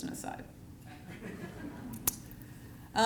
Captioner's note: laughter